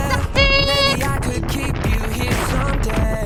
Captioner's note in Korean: 빵빵